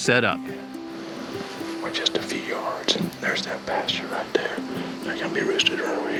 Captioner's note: whispering